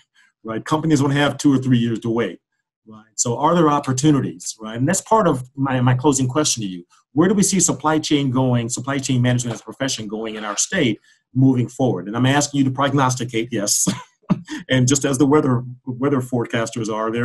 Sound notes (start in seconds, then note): 14.3 laughs